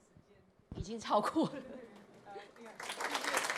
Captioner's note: chuckles; applause